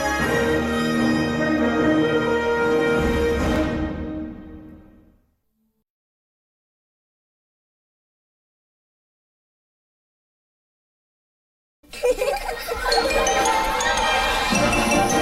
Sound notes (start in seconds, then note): 6.9 silence; 11.8 kids laughing as wondrous music plays